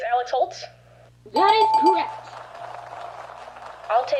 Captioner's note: audience applauds